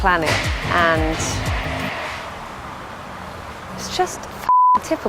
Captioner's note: crashing